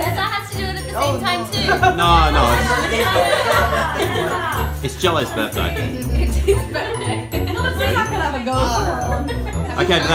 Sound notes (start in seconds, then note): 1.5 laughing from crowd; 8.4 laughs